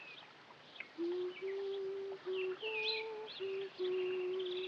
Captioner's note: humming